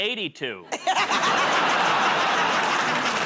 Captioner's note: laughter; applause